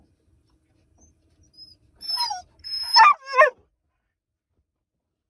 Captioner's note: Caesar is whimpering and barking again